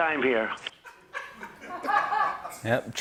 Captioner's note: laughter